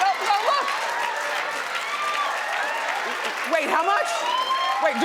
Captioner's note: cheering and applauding